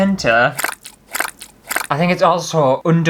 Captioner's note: squishy Sounds